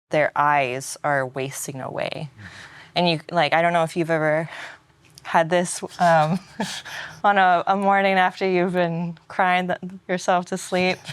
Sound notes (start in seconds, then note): 6.0 laughs